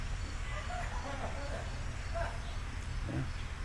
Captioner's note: light laughter